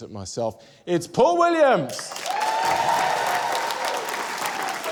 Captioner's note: cheering, applause